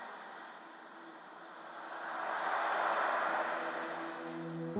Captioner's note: cars whooshing past